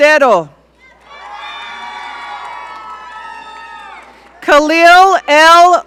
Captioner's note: audience cheering